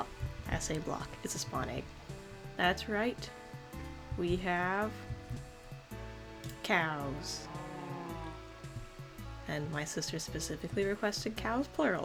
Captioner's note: cow moos